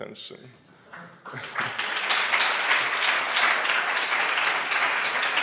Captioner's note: audience clapping